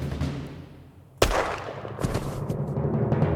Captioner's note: gunshot